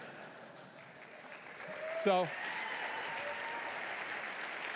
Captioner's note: laughter; applause